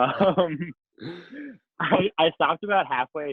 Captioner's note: laughs